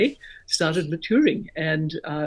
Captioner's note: chiming